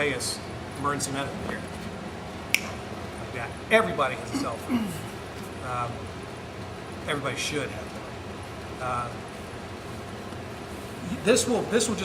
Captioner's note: snaps fingers